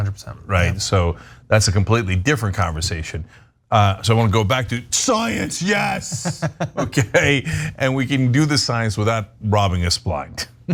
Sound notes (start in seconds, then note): 5.6 laugh